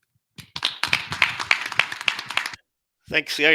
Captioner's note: applause